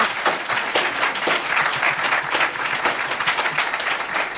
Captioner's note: audience applauds